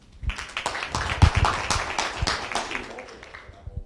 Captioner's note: crowd applauds